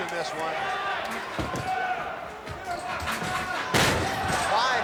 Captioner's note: audience chattering; body thuds